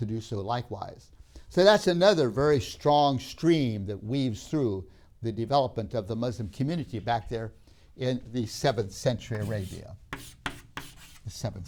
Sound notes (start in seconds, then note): 10.0 chalk sounds